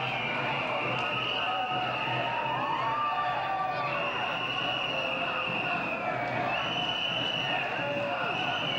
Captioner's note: cheers, whistles